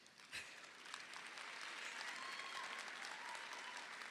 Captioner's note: audience applauding